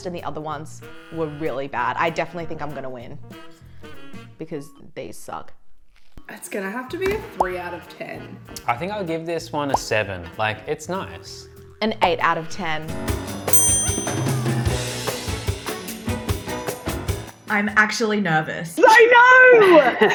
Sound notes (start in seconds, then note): 13.5 chimes; 13.5 upbeat music; 19.9 laughs